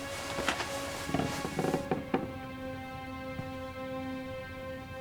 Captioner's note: floor creaking